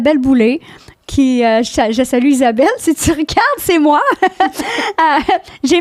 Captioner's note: in french